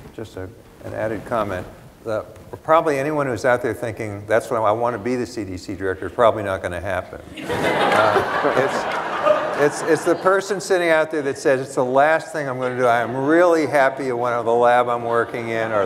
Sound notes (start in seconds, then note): 7.2 laughter